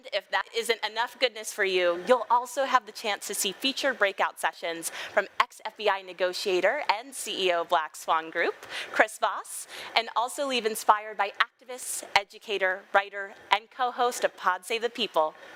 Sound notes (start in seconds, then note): none